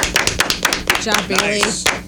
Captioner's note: clapping